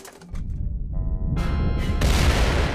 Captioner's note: deep rumble and explosion